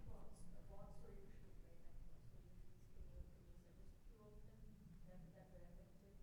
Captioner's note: speaks faintly